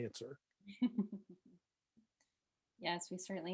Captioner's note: chuckles